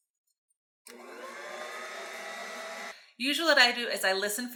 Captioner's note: mixer whirring